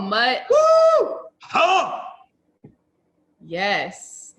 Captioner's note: man shouting